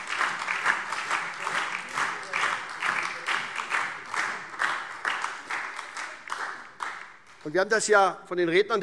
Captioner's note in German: Beifall SPD und DIE LINKE